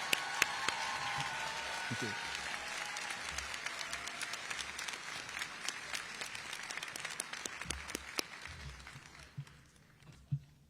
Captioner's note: applause